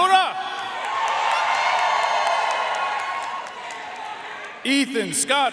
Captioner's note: audience cheering and applauding